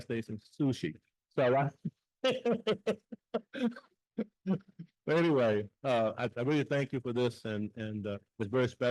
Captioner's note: laughs